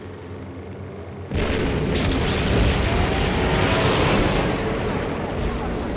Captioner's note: sound of explosions